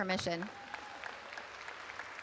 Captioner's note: applause